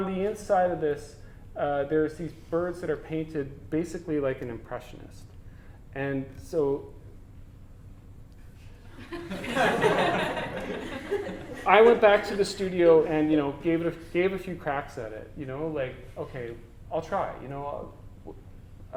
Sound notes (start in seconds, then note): 9.0 audience: Laughter